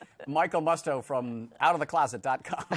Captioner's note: laughter